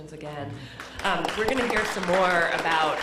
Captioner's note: applause